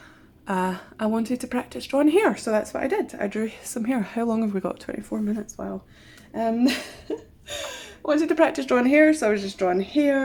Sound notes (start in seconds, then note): 6.6 laughs